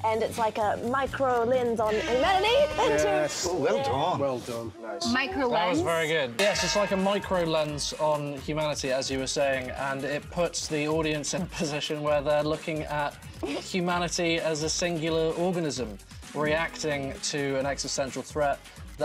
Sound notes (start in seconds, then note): 1.8 buzzer rings; 6.4 cowbell clangs